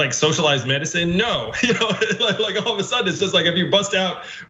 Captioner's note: laugh